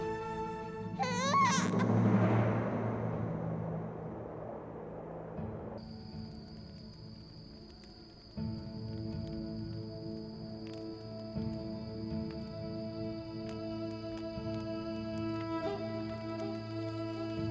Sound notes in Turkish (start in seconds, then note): 0.0 Müzik - Duygusal; 0.9 Bebek ağlama sesi; 3.1 Müzik - Gerilim